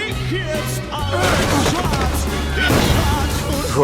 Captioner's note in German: Landser ächzt; Knall